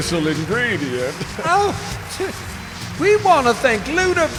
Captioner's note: scoffing